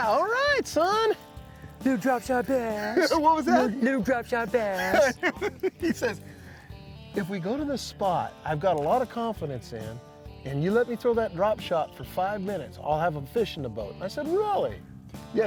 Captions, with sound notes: All right, son! -Little drop shot bass! -What was that? -Little drop shot bass! [both chuckle] -He says, "if we go to the spot I've got a lot of confidence in, and you let me throw that drop shot for five minutes, I'll have a fish in the boat". I said, "really?"